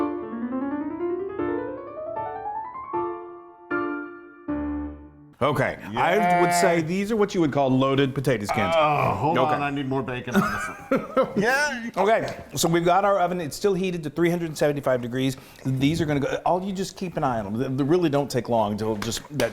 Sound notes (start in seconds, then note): 10.3 laughing